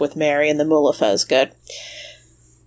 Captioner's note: sighs